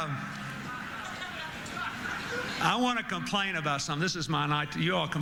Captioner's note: laughter